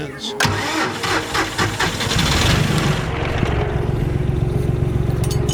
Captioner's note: tractor idling